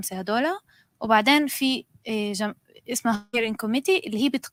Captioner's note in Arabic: لغة أجنبية